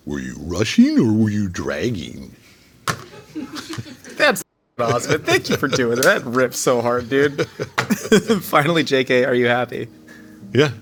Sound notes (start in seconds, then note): 2.9 crew laughing; 6.8 J.K. and Josh laughing; 6.9 high five smacking